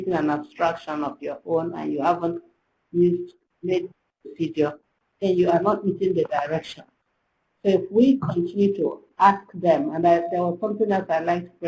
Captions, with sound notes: an abstraction of your own and you haven't, (slurred) video then you are not reading the direction. So if we continue to ask them and I open up a